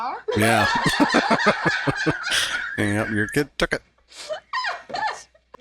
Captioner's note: laughing